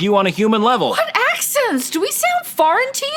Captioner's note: none